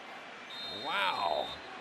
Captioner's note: whistle